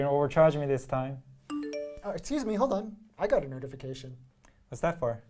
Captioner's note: phone sound